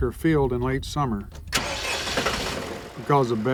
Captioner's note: machine revs